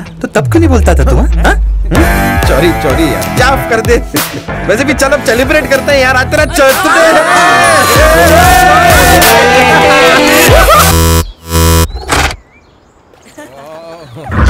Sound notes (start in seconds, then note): 4.1 Laughs; 8.4 Cheering; 13.2 Laughs